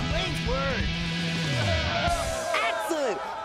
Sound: crowd cheering

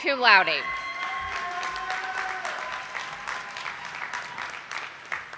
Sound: audience applauding

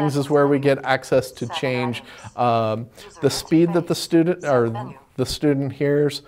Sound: computer voice: Settings; computer voice in background as commands change

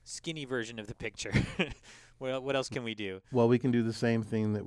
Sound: laugh

